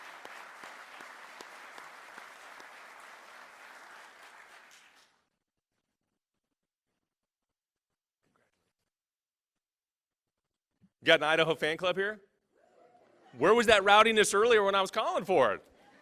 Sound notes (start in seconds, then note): 12.8 voiceover